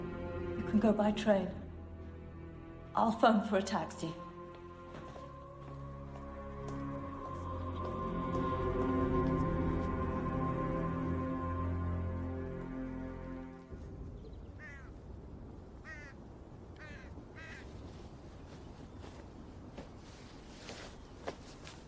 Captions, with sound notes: - You can go by train. I'll phone for a taxi. (tense music continues) (birds cawing) (fabric rustling)